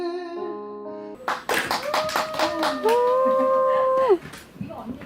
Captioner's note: pouring applause as soon as the first practice ends